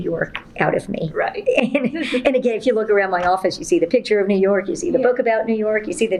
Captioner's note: laughs